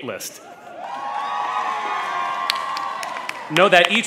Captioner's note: crowd cheers